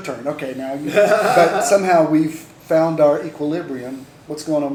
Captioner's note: laughter